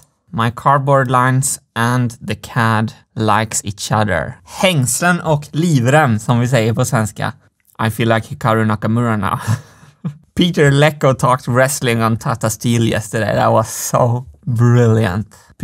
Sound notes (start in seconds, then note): 4.4 Swedish; 9.8 laughs